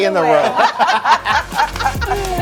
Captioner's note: laughing; upbeat music